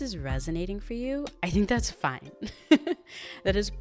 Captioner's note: chuckles